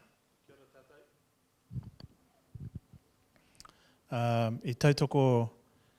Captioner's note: speaking in foreign language